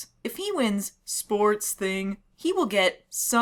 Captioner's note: monotone; excited; monotone